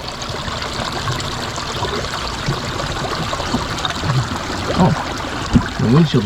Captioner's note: water trickles